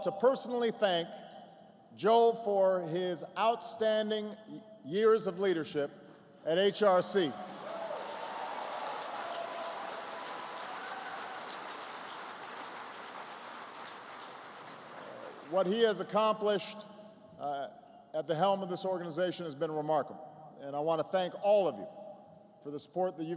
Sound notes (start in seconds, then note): 6.9 applause